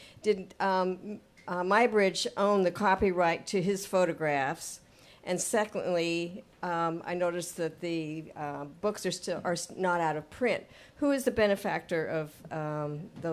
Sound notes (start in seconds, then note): none